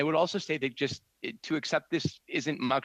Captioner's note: speaking French